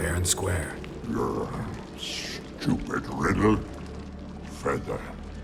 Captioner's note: grumble